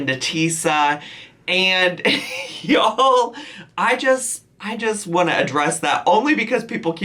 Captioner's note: laughs